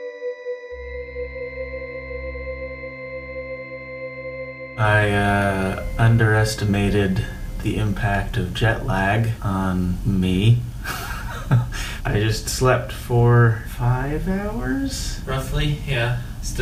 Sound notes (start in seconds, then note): 10.8 laughs